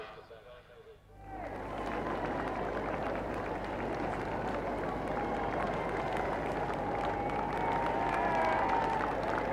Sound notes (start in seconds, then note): 1.1 crowd cheering; 1.2 crowd applauding